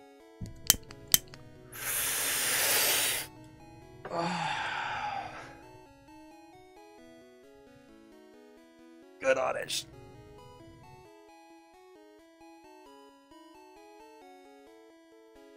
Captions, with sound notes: (lighter clicking) (inhale) (exhale) (hoarse) Good Oddish.